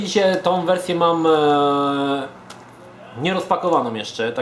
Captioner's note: stutters